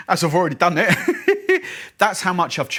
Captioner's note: laughing